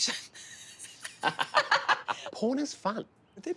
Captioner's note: laughing